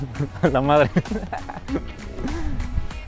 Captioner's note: laughs